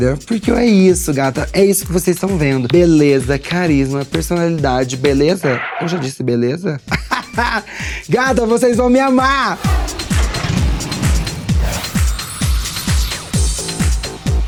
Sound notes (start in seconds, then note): 6.8 laughter; 11.6 electronic music